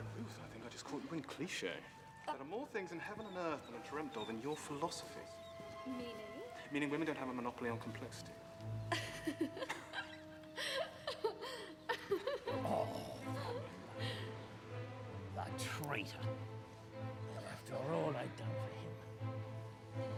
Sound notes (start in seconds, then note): 8.9 Ruth laughs